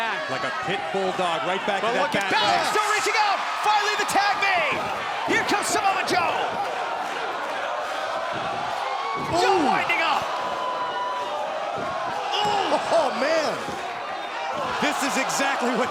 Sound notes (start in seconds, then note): 6.0 crowd chatter